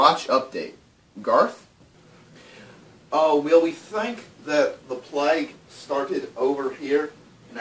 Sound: in Scottish accent: think Snatch

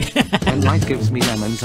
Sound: laff

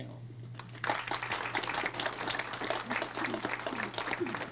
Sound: crowd applauds

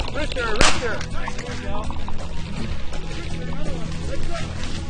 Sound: gun shoots

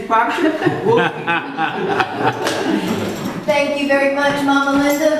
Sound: laughter

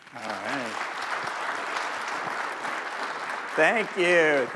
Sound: crowd applauding

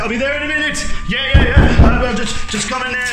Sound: banging on door

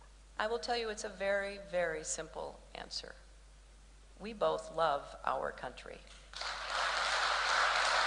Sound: applause

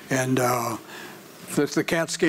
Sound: none

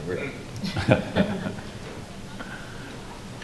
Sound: laughter

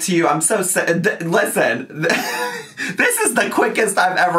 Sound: laughing

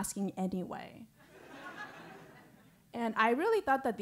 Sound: laugh

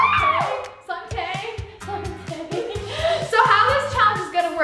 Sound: laughs

